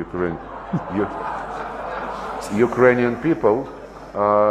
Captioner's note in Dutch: gelach